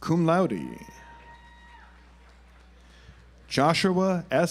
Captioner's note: audience applauds